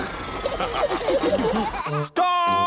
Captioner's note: all laughing